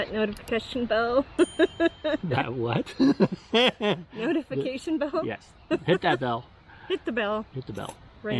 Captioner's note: both laughing